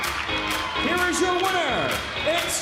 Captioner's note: bell ringing